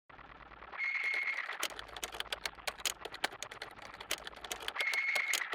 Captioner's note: machine whirs and clicks